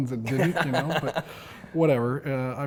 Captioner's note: laughs